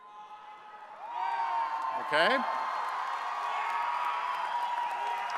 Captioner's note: audience cheers